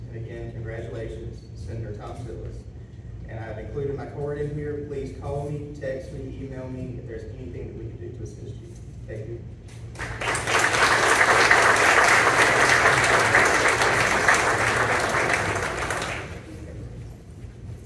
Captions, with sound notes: This is an outstanding accomplishment, and I join your family, friends, and colleagues in wishing you continued success as you step into this new position. Please contact my office if I can ever be of any assistance, and again, congratulations. Senator Thom Tills," and I've included my card in here. Please call me, text me, email me if there's anything we can do to assist you. Thank you. [ Applause ]